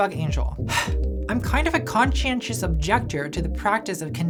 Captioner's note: sighs